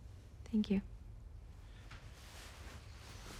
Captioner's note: none